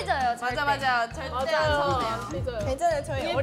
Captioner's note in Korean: 두근두근